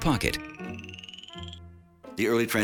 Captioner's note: siren wailing; upbeat music